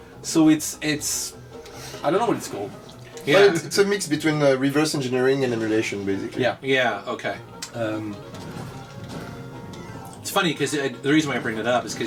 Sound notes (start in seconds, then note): none